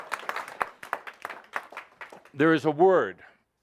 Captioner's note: some applause